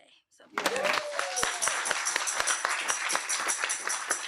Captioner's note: audience applauding